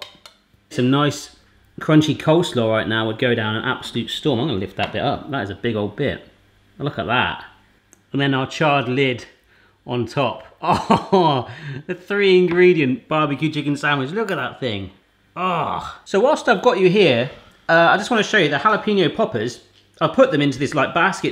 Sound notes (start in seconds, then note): 10.6 laughs